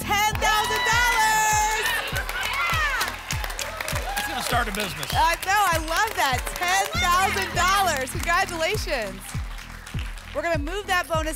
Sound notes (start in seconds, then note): 2.0 applause; 8.5 applause and cheering